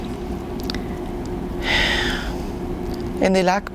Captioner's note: sighing